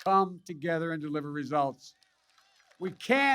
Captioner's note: applause